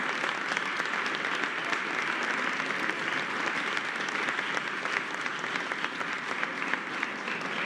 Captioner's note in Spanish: aplausos